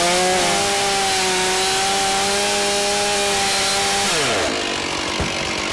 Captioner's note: chainsaw continues buzzing